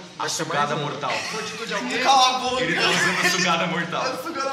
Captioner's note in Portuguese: Risadas